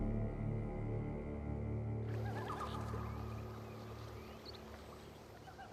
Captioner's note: les oiseaux gazouillent